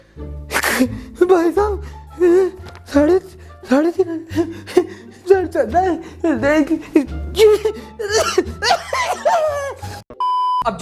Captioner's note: stuttering; coughs